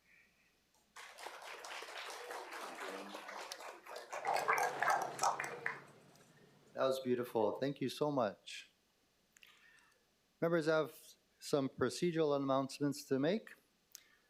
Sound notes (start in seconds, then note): 4.7 applause